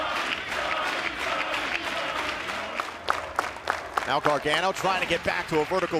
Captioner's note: fans chanting